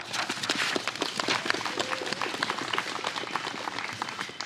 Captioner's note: applause